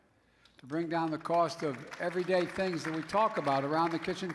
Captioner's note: applause